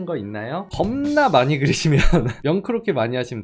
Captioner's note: laughing